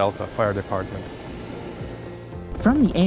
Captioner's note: plane engine roaring